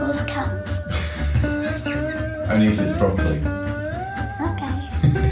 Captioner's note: laughs